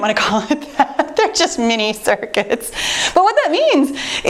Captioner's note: chuckles